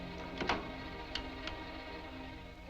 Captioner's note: lock clicking